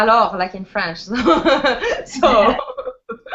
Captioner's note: laughs